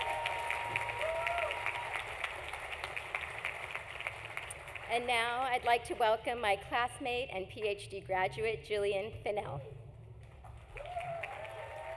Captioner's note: applause